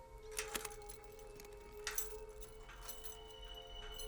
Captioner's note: metal clanging